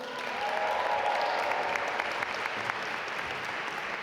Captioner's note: audience applaud